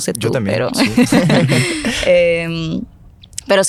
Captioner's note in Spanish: Se ríen